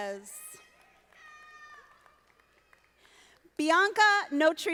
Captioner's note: audience applauding